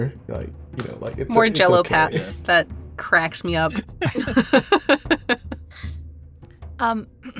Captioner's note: chuckles